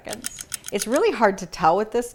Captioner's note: clock ticks